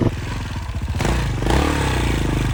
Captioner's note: engine revving